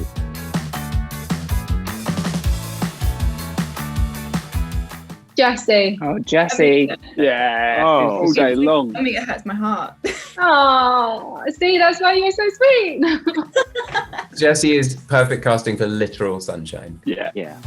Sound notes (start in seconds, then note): 0.2 upbeat music; 13.0 Jessie laughs